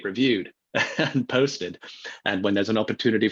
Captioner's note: laughs